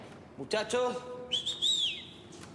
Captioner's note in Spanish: chifla